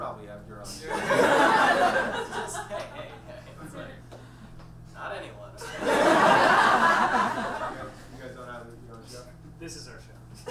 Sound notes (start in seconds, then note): 0.9 audience laughs; 5.6 audience laughs